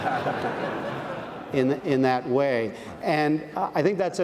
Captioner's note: audience laughs